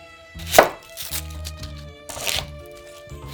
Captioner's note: onion paper rustling